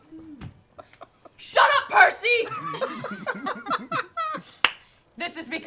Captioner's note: laughter